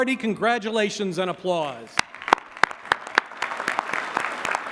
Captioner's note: applause